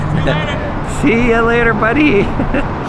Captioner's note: laughs